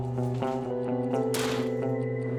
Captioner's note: door closing